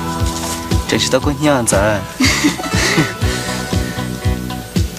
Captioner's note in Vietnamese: tiếng cười